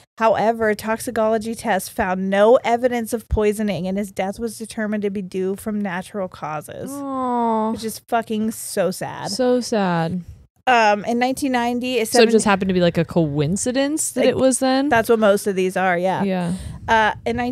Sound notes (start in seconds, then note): none